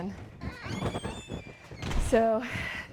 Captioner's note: door squeaking